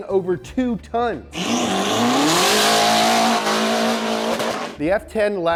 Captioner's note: car engine revs